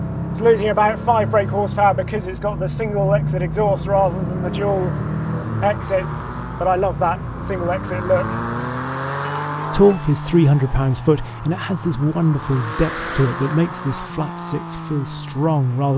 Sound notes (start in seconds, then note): 8.5 engine accelerates